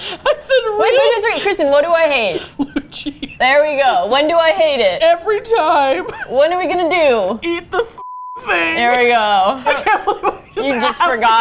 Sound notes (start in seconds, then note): 2.2 laughing